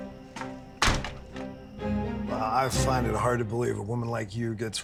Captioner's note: strained music; door closes